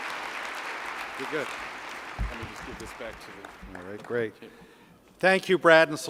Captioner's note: applause